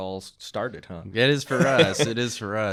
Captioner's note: chuckling